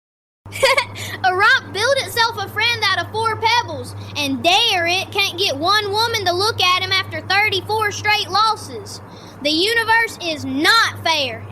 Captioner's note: laughs